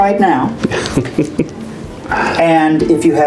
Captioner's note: chuckling